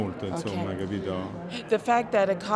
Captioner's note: speaking in Italian